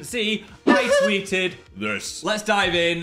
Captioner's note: Dan giggles